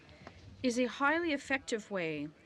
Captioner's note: speaking in French